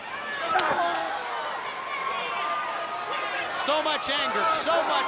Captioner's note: crowd cheering; leather cracking; wrestlers grunting